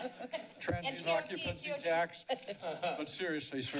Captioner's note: laughs; laughs